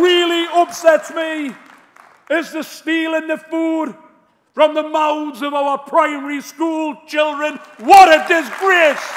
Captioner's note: applause